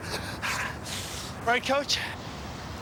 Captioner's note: panting